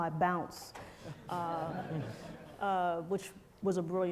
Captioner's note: crowd laughs